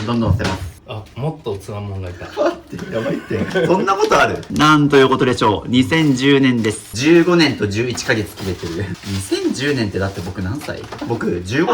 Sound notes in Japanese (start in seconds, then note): 2.8 笑い